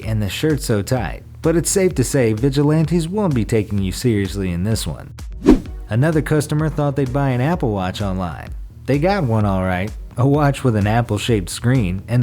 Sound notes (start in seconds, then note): 5.4 air whooshes